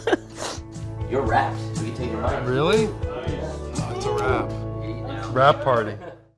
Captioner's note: sniffs